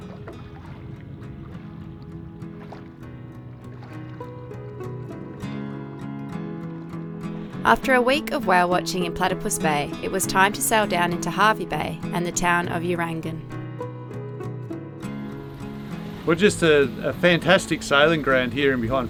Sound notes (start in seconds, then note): 1.8 water gurgles; 3.6 peaceful guitar music